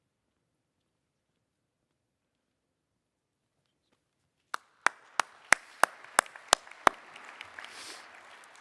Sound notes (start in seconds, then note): 2.1 applause